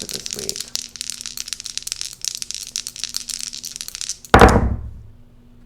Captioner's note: dice rolling